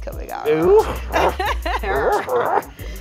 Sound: barking; both laughing

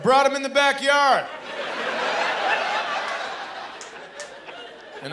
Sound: laughter

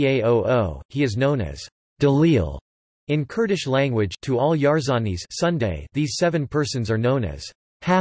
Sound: in Kurdish Language

